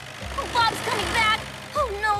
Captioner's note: panicking